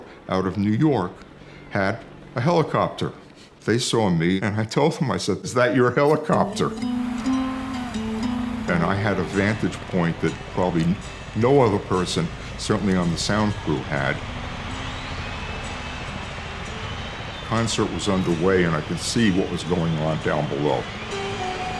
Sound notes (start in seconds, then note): 7.2 gentle guitar music; 14.7 crowd cheering; 20.7 gentle rock music